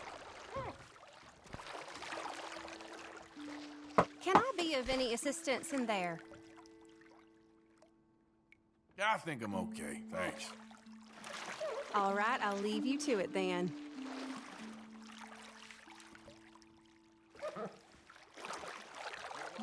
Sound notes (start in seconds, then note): 4.3 knocks the door